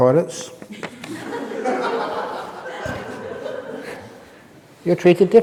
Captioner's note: laughs